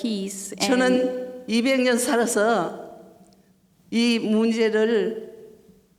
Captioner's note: speaking foreign language